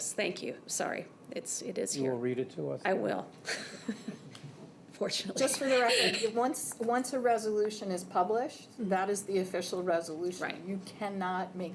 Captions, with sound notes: >> Yes. >> And you have it? >> Yes. Thank you. Sorry. It is here. >> You read it to us. >> I will. [ Chuckles ] Fortunately. >> Just for the record. Once a resolution is published, that is the official resolution.